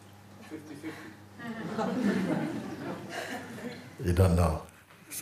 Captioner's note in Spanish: risas